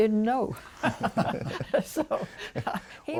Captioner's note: laughter